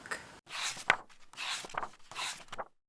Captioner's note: pages turning